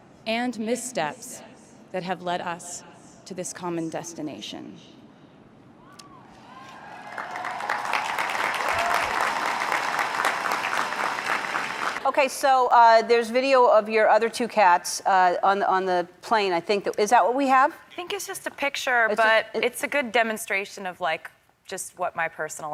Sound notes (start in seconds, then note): 5.9 crowd cheering and clapping in approval